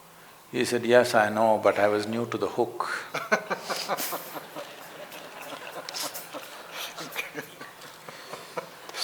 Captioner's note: laughter